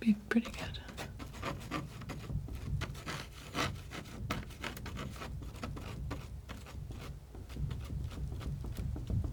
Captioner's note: scratching